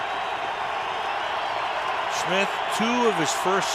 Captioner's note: cheering